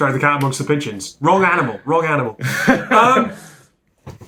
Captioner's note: laughs